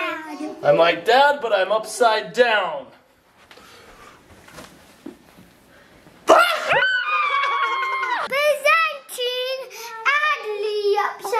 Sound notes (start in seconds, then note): 6.3 laughing; 6.7 yelling